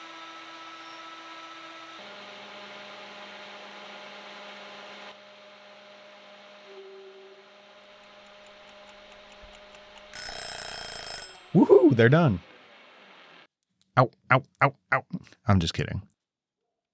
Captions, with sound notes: (clock ticks) (alarm rings) Woohoo, they're done. Ow, ow, ow, ow, I'm just kidding.